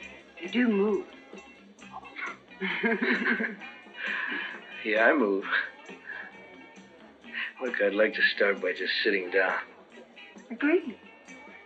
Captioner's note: laughter